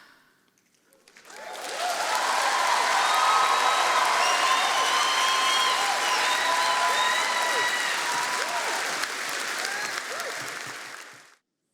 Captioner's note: applause